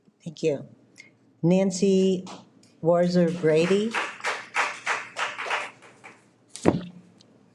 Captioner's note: audience clapping